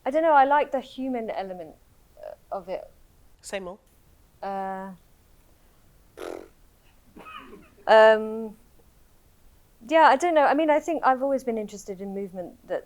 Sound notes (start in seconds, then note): 6.1 blows raspberry